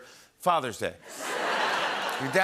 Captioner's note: laughter and applause